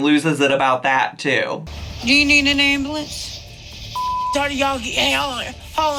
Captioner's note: beep